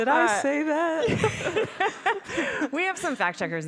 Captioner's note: laughing